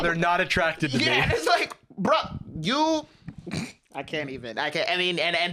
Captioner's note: laughs